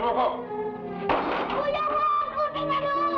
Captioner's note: people shouting in Tagalog; foot bangs; boy shouting in Tagalog